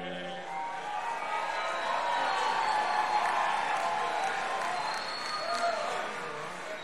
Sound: crowd cheering; crowd applauding

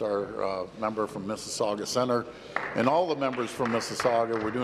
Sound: applause

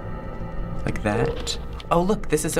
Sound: in game: bloop

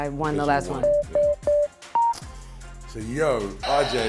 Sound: beeping

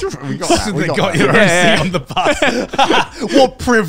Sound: laughing

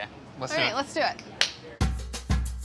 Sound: claps; upbeat music

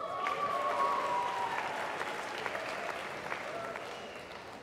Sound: applause

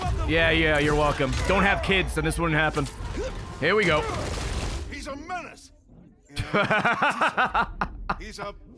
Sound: laughs

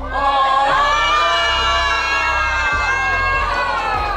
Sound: crowd cheering

